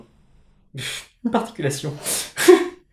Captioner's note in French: rire